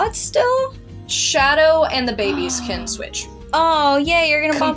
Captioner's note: gasp